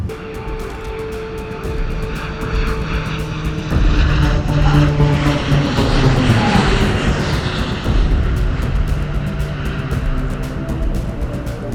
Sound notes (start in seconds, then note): 0.1 tense music; 2.5 airplane engine roaring